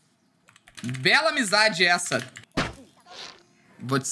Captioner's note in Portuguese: som de flecha